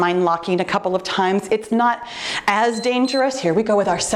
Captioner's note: timer beeps